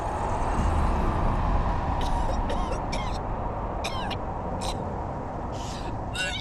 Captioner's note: coughing